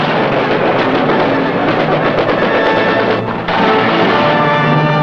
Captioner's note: guns fire